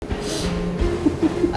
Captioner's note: sniffle